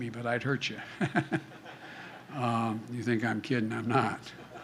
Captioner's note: laughter